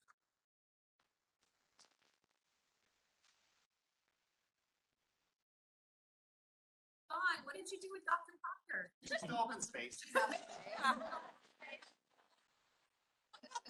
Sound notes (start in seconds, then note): 7.5 chatter